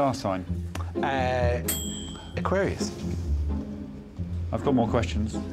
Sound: microwave dings

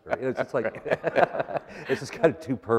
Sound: laughter

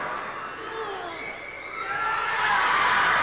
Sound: strains; cheering

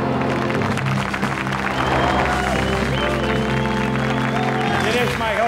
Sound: applause

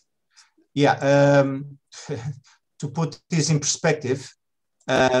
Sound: laughs

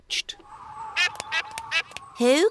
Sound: all quacking

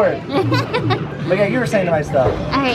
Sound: laughing

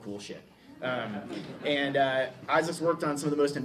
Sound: laughter

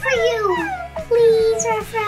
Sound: mom whining

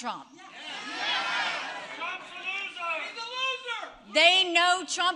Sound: crowd jeers

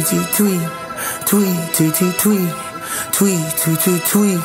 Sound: tweak tweak tweak

